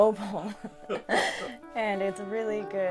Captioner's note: both laughs